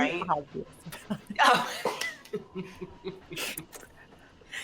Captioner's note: all chuckling